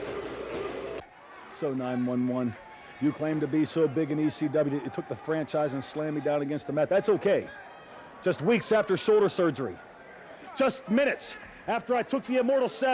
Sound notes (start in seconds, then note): 2.7 crowd cheering